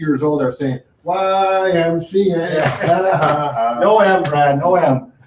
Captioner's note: laughs